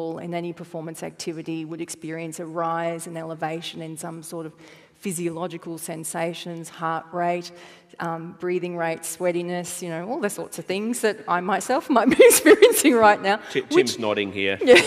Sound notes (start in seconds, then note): 13.5 laughs